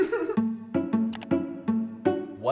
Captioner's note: laughter; light string music continues; light string music plays; mouse click